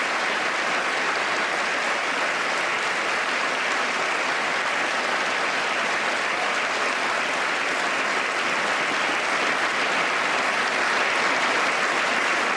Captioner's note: applause